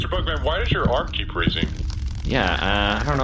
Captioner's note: rhythmic tapping comes from C-53